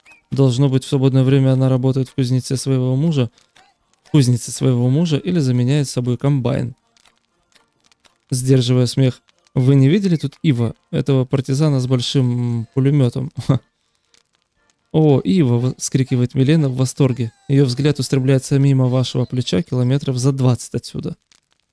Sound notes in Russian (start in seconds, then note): 8.7 сдерживая смех